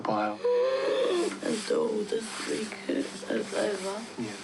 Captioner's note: wheezes